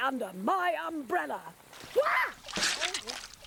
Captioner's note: screams